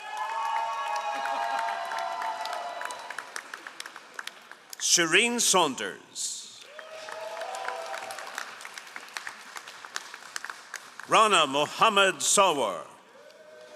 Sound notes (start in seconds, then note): 0.0 all applauding; 6.6 all applauding